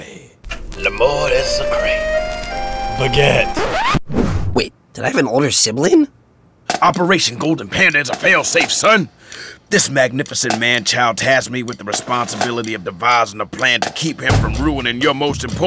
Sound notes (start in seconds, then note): 4.0 record scratches